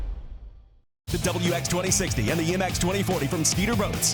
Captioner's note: voiceover